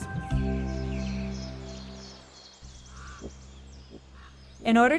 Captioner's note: bird chirping